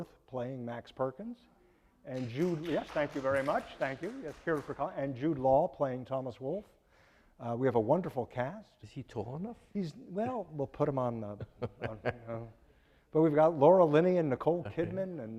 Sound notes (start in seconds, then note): 2.1 audience applauding; 11.4 laughing